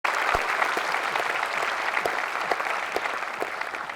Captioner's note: audience applauding